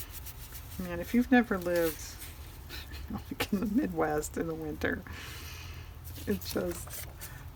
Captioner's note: laughs